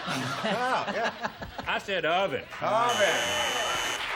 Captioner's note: laughter